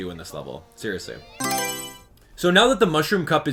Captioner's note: Mario Selection Sound